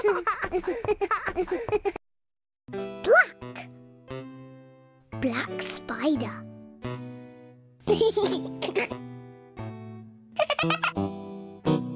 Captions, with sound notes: Black. Black spider. [GEORGE GIGGLES] [SPIDER GIGGLES]